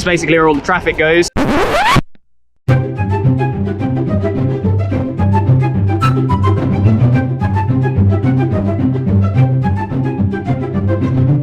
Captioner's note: record scratch